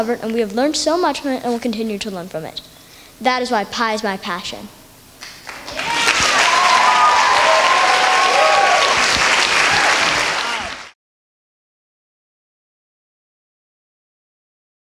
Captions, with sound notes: and we have learned so much and we'll continue to learn from it. That is why Pi is my passion. (Applause, cheers)